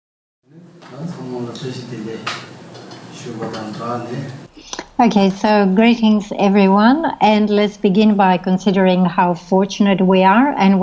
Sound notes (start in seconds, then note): 0.8 speaking foreign language